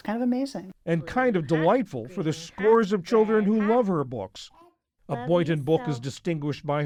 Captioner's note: voice-over